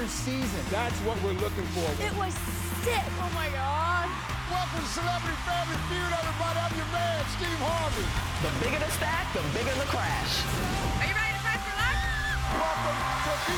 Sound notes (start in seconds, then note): 9.4 crash; 11.1 excited scream